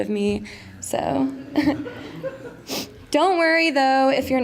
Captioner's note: laughter